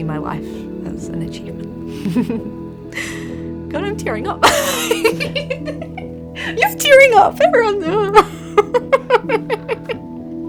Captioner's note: draws breath; laughs